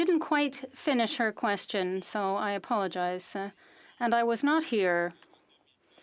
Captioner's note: speaking French